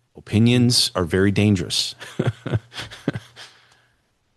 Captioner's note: laughter